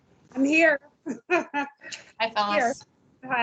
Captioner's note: laughs